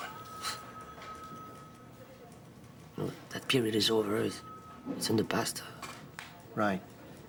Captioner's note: scoffs